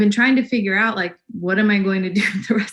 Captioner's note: laughs